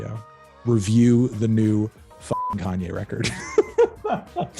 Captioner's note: beep; laughing